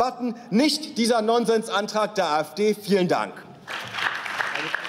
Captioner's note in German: Beifall